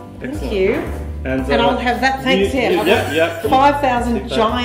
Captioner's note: laughter